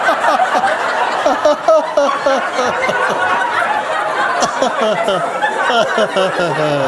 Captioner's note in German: Lachen